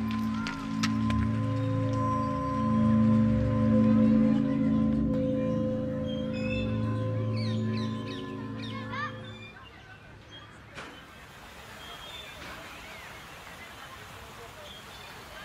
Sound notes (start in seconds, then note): 0.1 eerie music; 5.1 swing squeaking; 8.6 children playing; 11.1 water rushing